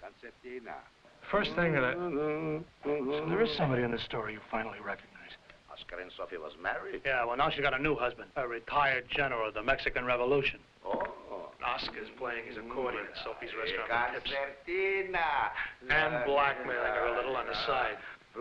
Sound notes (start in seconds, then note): 1.7 Jakob humming